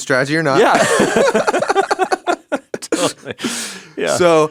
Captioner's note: laughing